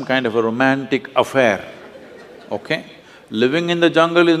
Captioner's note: laughter; 笑聲